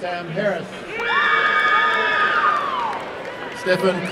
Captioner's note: applause and cheering